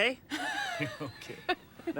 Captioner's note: Roberta laughs